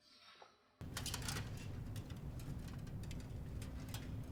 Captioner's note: armor clanking